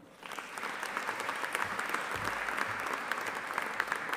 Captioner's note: audience applauding